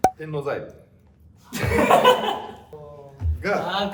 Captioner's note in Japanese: 笑い声